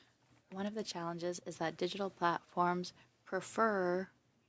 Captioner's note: speaking French